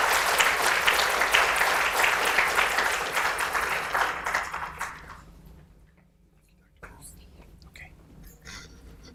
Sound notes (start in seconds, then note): 7.1 whispering